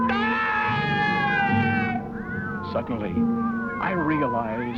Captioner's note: yells